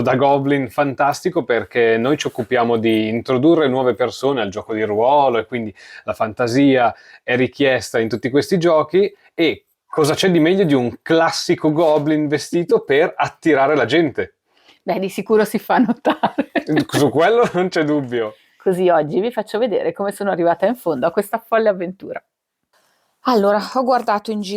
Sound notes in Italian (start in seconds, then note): 16.0 risate